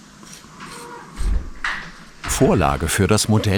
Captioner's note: rumbling in the background